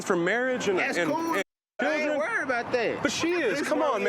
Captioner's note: beep